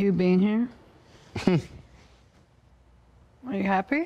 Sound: scoffs

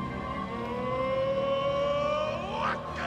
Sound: non-english speech

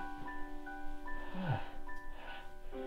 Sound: sighs

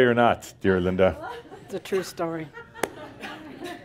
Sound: more chuckles

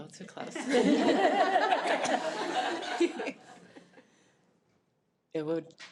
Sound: board members and attendees laugh

